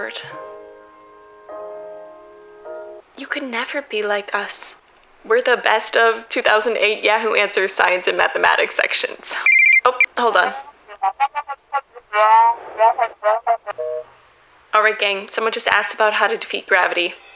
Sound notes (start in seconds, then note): 9.4 phone rings